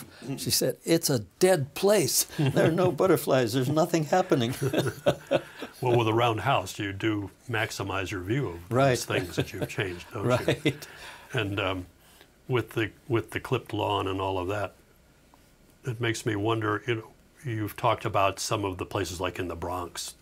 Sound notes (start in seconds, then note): 4.2 both laughing